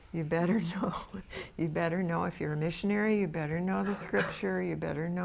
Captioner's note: laughs